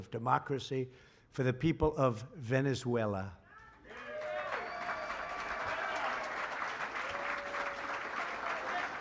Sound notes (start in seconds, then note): 3.6 applause